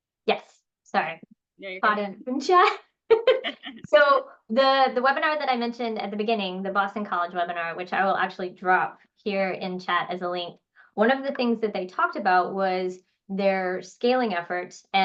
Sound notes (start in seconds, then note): 3.1 both laugh